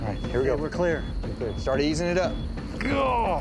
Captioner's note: exclaims